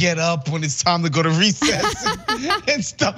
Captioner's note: laugh